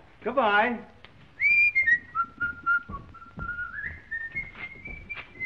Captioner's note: whistling joyfully